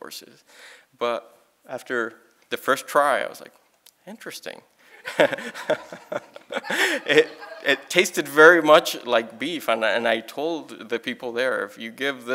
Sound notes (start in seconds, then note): 6.8 laughing